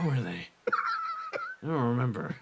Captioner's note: laugh